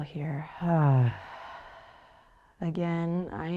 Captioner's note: sighs